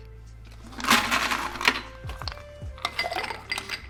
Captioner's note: ice clanking